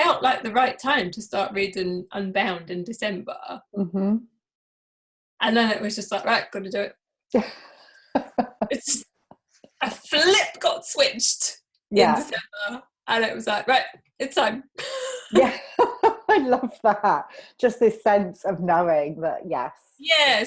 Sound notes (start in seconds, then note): 8.2 laughs; 14.8 both laughing